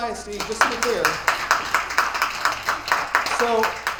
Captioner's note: attendees applauding